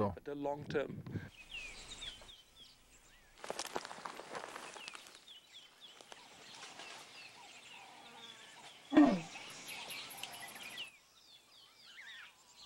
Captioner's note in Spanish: sonidos selváticos